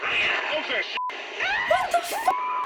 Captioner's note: customer shrieks